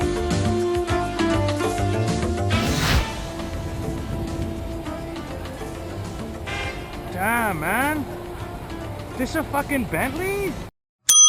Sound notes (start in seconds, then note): 2.6 street noise